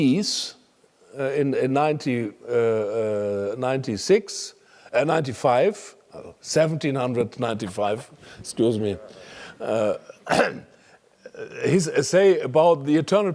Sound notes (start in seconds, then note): 8.8 laugh; 10.0 cough